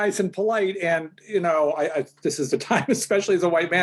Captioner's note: chuckles